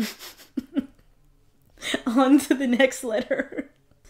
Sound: laughs; while laughing

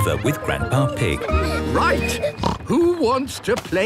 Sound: snorts

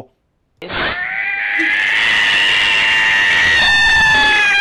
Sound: incoherentcatscream.wav

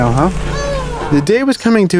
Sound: upbeat piano music; groans

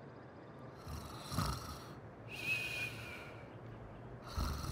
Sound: person snoring

